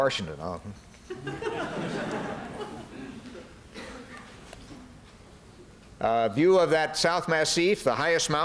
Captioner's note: laughter